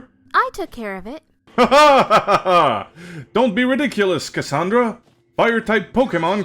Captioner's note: laughter